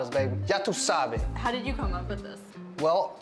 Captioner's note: Spanish